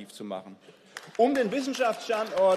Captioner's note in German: Beifall